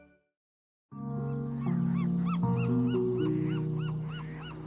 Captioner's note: birds chirps